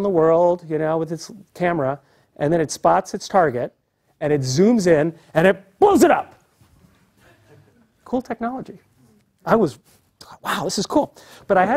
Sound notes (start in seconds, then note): 7.2 laugh